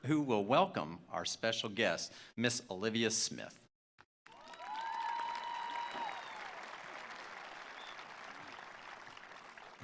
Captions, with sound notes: who will welcome our special guest, Ms. Olivia Smith. (attendees applauding) (attendees cheering)